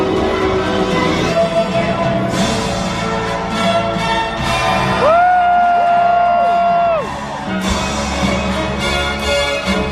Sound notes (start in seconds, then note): 4.5 audience cheering